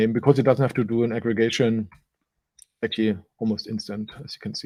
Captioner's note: none